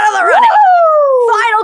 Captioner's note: whoops